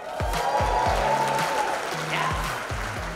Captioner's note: attendees applauding and cheering